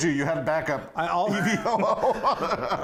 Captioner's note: laughing